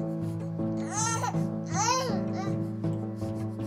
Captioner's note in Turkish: Bebek ağlıyor